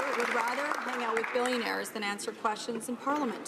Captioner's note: some Applause